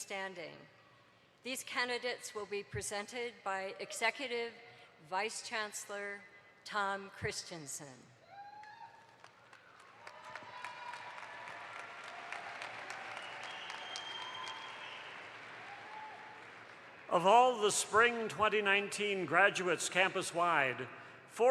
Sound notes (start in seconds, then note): 8.9 audience applauds